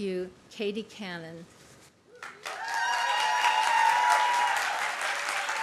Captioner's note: applause